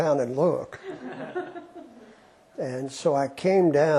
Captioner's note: laughter